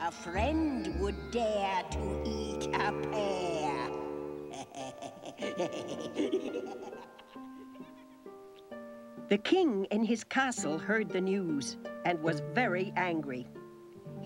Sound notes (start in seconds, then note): 4.4 wizard laughing wickedly